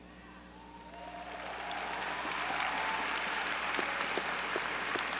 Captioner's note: audience cheering